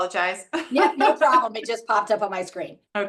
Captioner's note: laughs